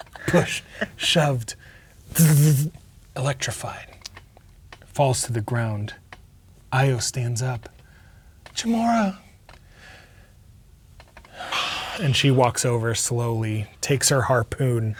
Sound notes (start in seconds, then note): 2.1 makes electricity noises